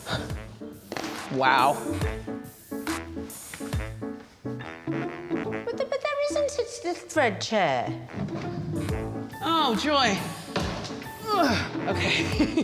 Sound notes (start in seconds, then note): 0.0 sighs; 0.8 circle slapping on floor; 3.8 playful music; 9.9 door clonking